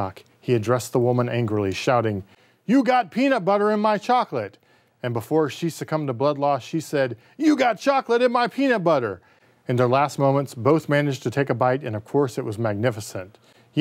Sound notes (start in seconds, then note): none